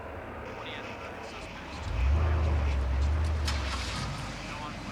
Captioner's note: garbled speaking on police radio